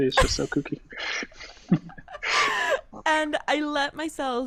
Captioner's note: laughs